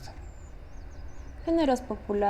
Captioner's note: birds chirping